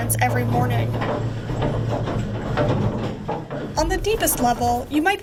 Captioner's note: elevator shaft clacking